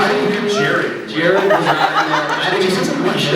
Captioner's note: laughs